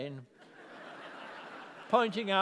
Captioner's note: laughter